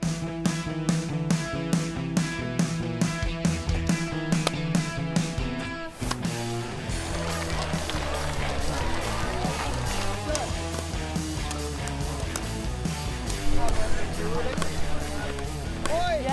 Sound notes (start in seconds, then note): 3.9 pickeball sounds; 6.8 applause; 10.7 pickeball sounds